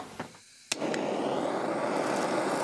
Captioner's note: hissing